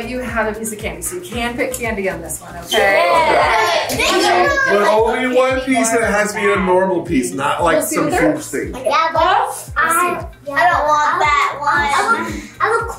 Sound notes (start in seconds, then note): 2.7 kids cheer